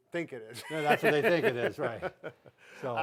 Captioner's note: laughs